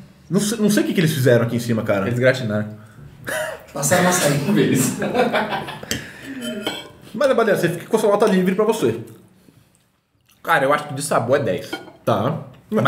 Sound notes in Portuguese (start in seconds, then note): 4.3 risos